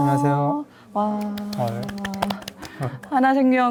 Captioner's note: applause